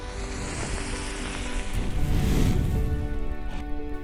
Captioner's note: match sizzles